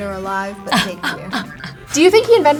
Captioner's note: laughs